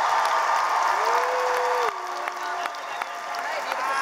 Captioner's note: cheering